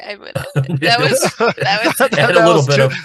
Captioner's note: laughing